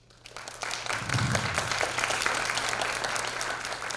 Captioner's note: audience applause